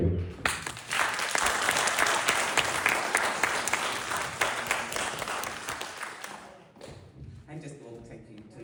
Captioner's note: applause